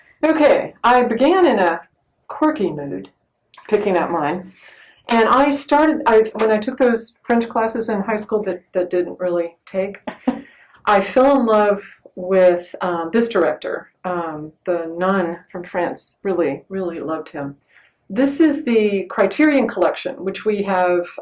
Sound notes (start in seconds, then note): 10.0 laughs